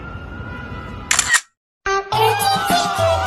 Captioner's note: emergency sirens and traffic horns; camera button clicked; people cheering